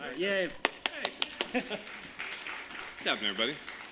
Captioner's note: applause